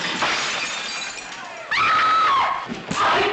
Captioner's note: chiquita screams